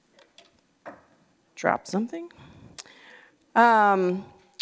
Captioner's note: noise of something dropping